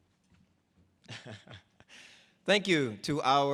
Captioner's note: laughs